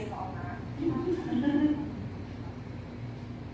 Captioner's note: chuckle